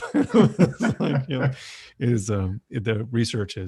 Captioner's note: laughs